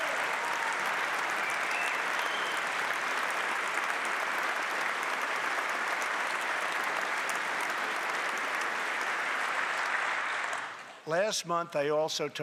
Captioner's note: applause